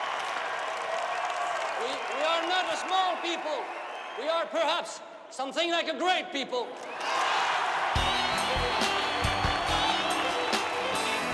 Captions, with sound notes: We are not a small people. We are perhaps something like a great people. (people cheering)